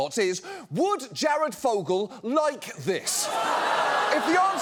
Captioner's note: audience exclaims